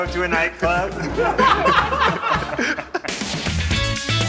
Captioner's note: laughing; upbeat music